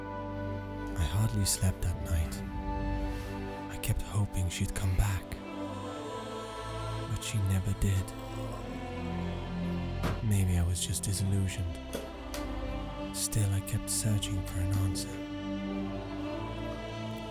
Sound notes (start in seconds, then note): none